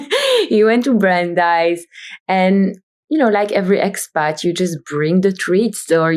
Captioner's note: laughs